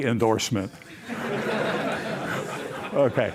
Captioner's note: laughter